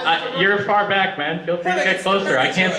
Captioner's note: audience murmur